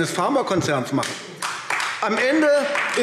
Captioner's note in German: Beifall AfD